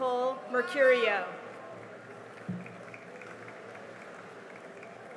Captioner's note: cheering and applause